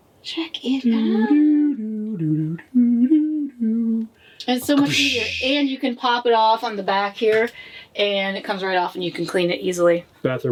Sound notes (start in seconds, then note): 1.2 making elevator music sounds